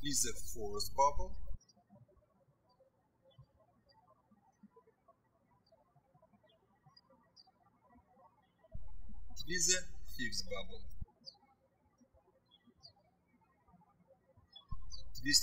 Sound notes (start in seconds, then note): 3.6 birds chirping; 12.0 birds chirping